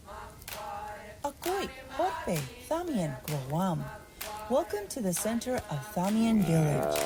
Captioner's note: non-english singing; non-english speech